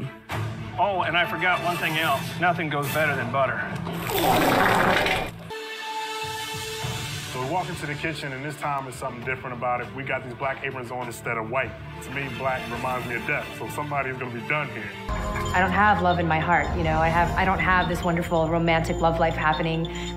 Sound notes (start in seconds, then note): 4.0 fart noise